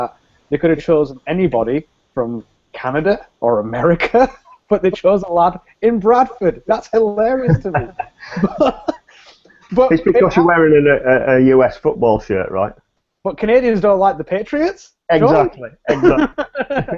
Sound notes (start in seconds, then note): 7.4 both laugh